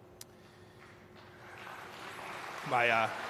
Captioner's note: applause